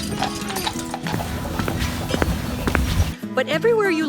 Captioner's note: footsteps